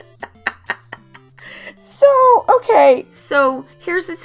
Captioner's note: laughing